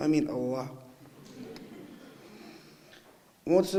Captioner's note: audience laughing